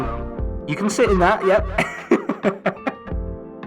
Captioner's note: laughs